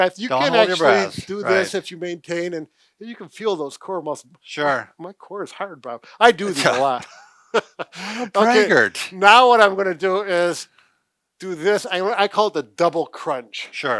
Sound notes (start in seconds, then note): 6.5 laughs